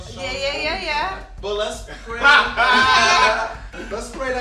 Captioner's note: all laughing